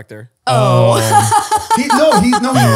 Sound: they laugh

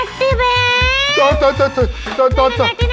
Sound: Manan Stammers

